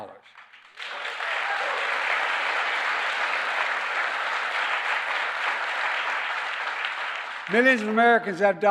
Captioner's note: applause